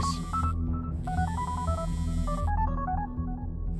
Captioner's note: phone ringing